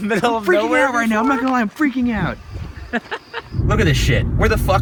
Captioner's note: voiceover